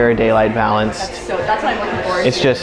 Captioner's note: women talking in the background